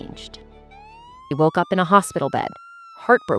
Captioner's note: sirens wailing